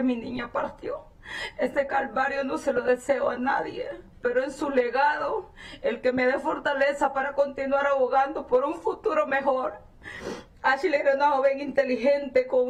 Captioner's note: speaking spanish